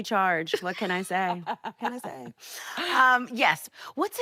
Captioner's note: laughing